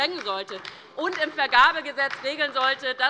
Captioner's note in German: Beifall bei der LINKEN und der SPD